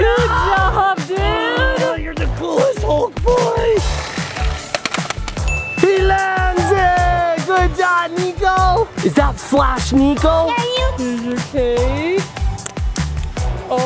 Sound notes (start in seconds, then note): 4.4 toy clatters; 5.4 light ding